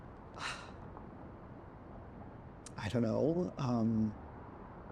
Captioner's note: sighs